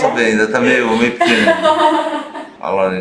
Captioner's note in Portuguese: risos